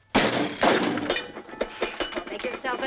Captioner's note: metal clanking